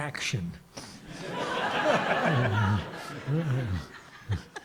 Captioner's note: audience laughs